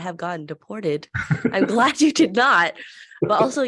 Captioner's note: both laugh